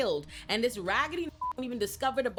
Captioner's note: beep